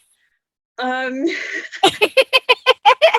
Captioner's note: laughs